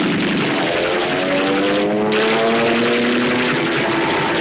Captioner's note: guns firing rapidly